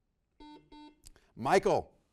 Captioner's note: buzzer beeps